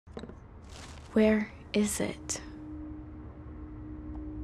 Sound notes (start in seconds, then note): 0.0 jars move